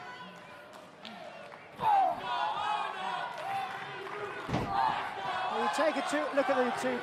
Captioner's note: crowd chatter